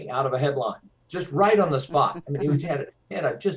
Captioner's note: laughs